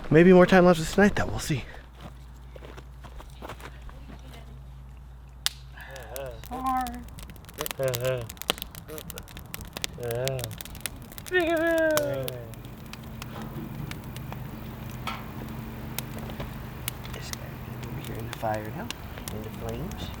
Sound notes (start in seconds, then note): 7.6 fire crackling; 12.5 crickets chirping; 13.4 fire crackling